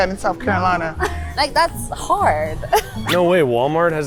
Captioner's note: chuckles